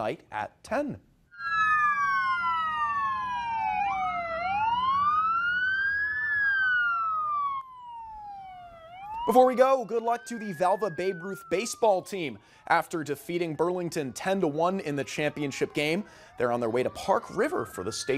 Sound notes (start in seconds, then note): 16.1 sirens wailing